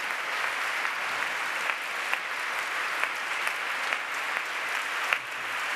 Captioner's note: applause